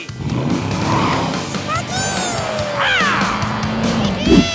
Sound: roaring; giggling

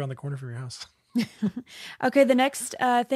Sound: laughs

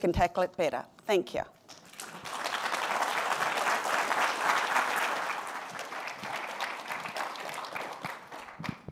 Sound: applause

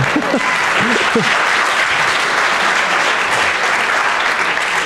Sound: audience claps

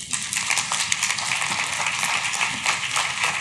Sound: clapping

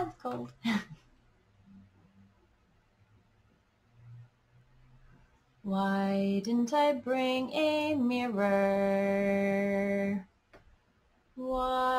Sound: giggles

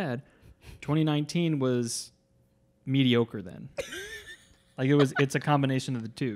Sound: laughs

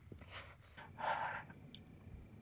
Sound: crying

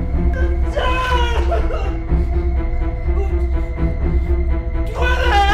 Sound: cries hysterically

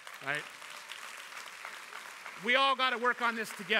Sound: applause

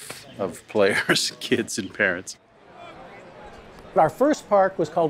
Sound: laughs

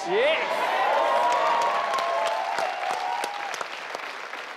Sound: audience cheering

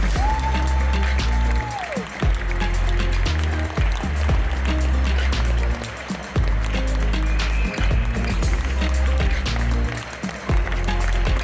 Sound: applause; ♫ Midtempo guitar music ♫

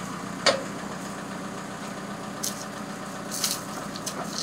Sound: equipment clanking

